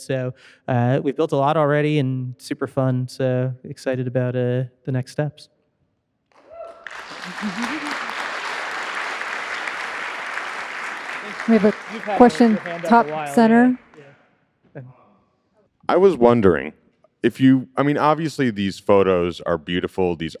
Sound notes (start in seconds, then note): 11.5 audience applauding; 11.5 audience member cheering